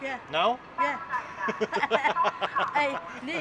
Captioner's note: laughing